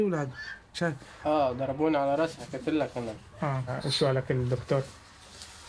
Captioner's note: speaking foreign language